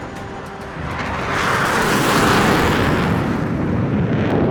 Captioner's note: jets roaring